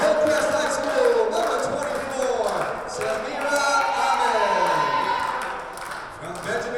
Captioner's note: team members clapping; audience cheers